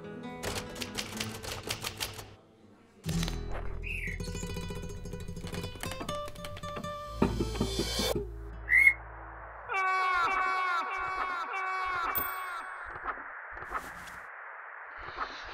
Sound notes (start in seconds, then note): 0.4 typing sounds; 3.6 bird chirping; 9.6 yelling